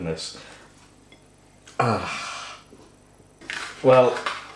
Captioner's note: small despairing sigh